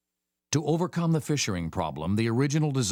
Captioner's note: voiceover